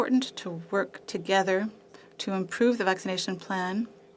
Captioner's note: speaking French